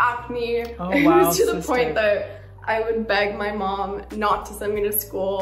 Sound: chuckles

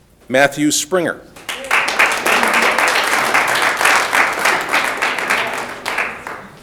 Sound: audience applauding

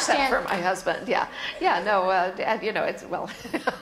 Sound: laughs

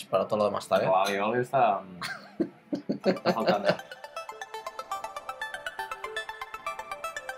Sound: laughs

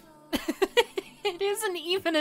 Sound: laughs

